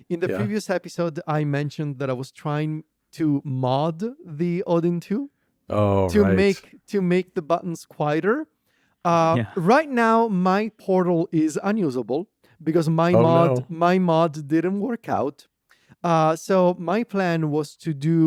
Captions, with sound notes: In the previous episode, I mentioned that I was trying to mod the Odin2- Oh, right. ... to make, to make the buttons quieter. (laughs) Uh, right now, my Portal is unusable because my mod- Oh, no. ... my mods didn't work out. Uh, so my plan was to do